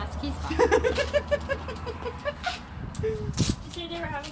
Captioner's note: laughs